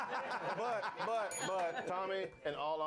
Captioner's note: laughter; bell rings